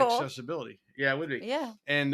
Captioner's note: laugh